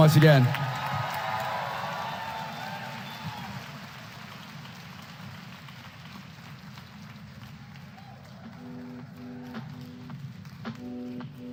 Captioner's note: applause